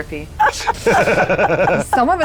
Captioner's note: laughing